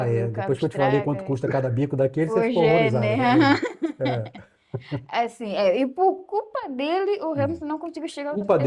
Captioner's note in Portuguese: risadas